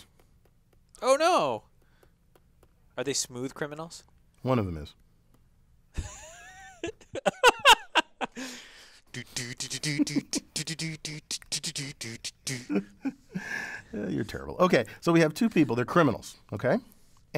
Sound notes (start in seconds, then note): 5.9 laugh; 12.8 laugh